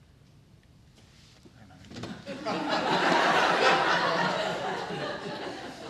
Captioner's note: laughter